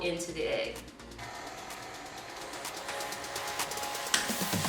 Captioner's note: mixer whirring